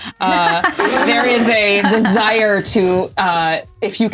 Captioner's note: laughter